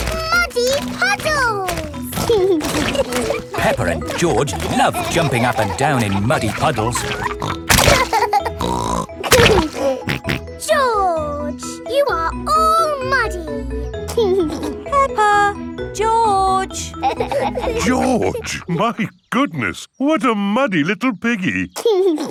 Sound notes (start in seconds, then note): 7.9 laughs and snorts; 14.0 giggling; 21.8 giggles and snorts